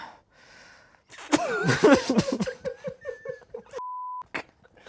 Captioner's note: everyone laughs; beep